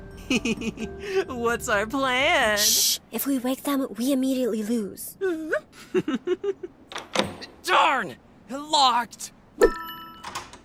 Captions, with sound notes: HEHEHE, what’s our PLAN– SHHH! If we wake them, we immediately lose! [GIGGLING] Darn--locked!